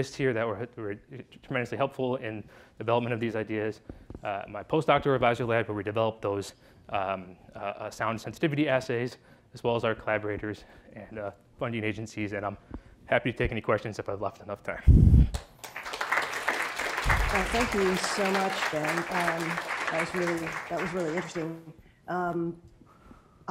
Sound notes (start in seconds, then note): 15.3 applause